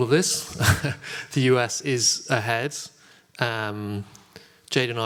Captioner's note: laugh